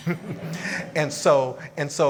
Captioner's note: audience laughing